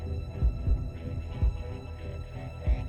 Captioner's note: none